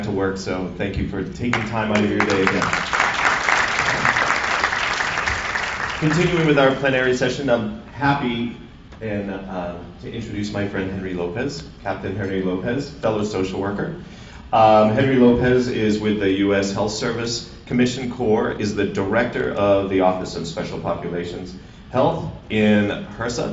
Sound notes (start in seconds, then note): 4.7 applause